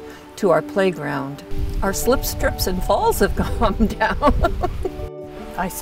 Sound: laughs

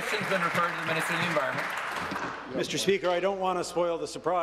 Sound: applause

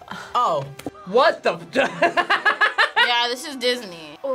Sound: laughs

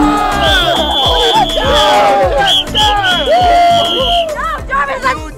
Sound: whistle blowing

